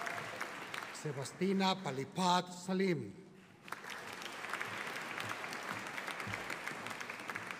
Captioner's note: audience applauding; audience applauding